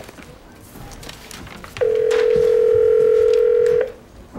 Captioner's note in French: dring!